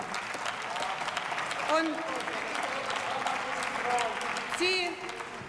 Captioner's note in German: Beifall